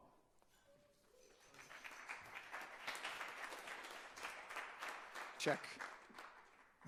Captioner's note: audience applauding